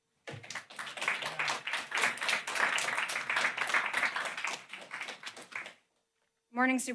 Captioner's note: applause